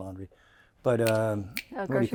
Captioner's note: snapping his fingers